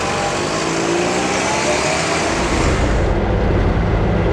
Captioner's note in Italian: Sound scarico AR59